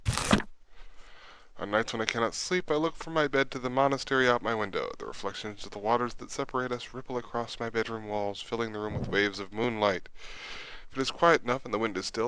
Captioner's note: reading Aloud